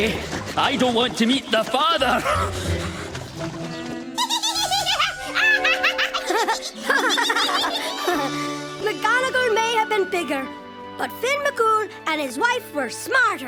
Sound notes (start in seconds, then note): 2.0 panting; 4.1 chuckling; 4.1 giggles; 6.6 laughing